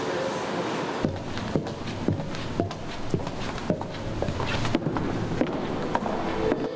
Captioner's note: sound of footsteps; music from an artwork plays in the background